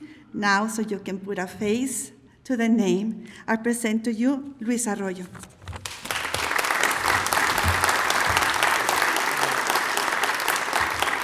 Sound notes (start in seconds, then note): 5.8 applause